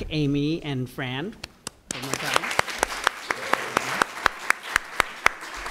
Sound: applause

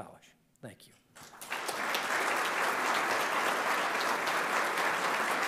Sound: audience applauding

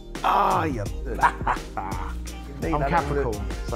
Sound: laughing

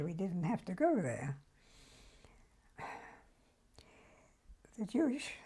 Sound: pauses for 3 seconds

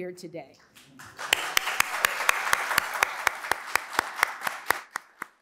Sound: audience applauds

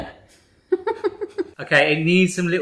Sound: giggling

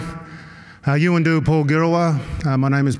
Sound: non-english speech

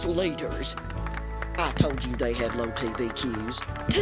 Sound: weak applause

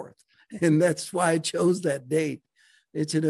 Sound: chuckles

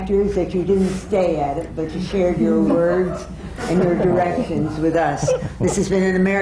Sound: laughter from the panel

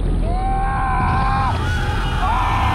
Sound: screaming

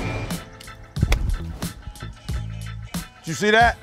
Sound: club hitting ball

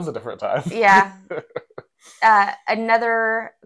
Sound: laugh

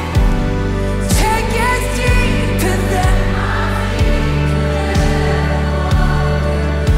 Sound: crowd

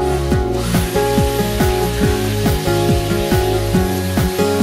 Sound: vacuum sucking

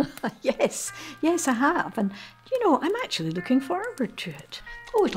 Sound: laughs

